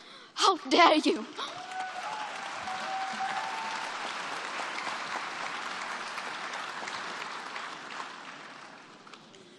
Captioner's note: applause